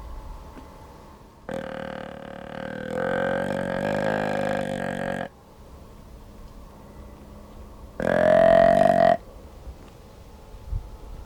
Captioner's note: grunts at buck